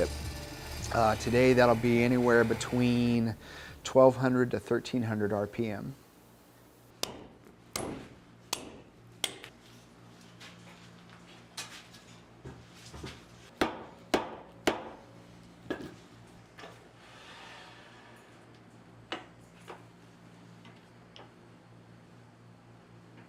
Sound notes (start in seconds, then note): 5.4 hammering